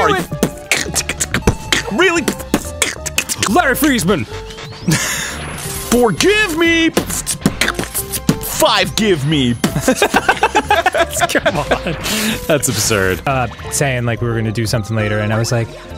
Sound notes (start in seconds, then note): 0.1 beatboxing; 6.9 beatboxing; 9.6 laughing; 9.6 both laughing